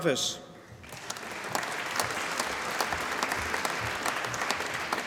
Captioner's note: applause